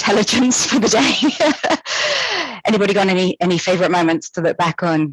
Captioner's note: laughter